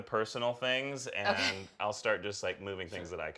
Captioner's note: laughing